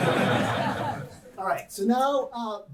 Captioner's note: audience laughing